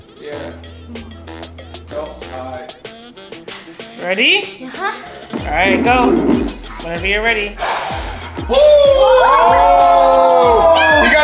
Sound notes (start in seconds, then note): 5.5 air swooshing